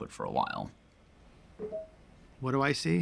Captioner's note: pinging